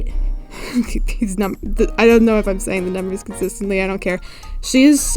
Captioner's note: laughs